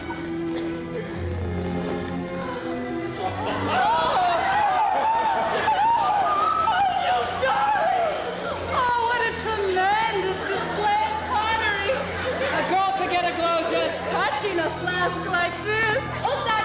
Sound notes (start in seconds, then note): 2.2 women gasp; 8.0 gasping